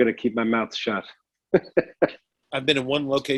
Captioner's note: laughs